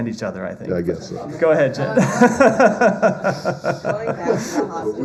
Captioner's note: laughter